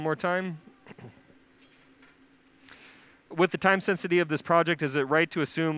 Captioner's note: clears throat